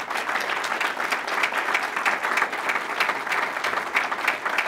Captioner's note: applause